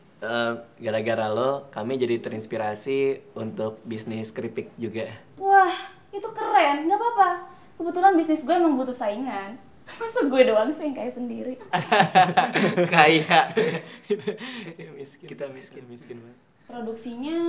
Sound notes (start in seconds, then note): 11.7 laughing awkwardly